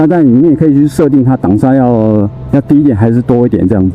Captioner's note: engine braking